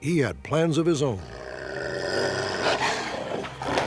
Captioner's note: dog growling; dog snarling